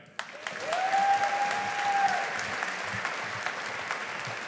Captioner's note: audience applauding